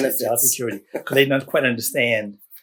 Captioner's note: laughs